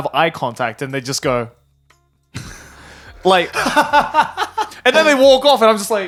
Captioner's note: laughing